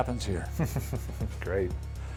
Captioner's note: laughs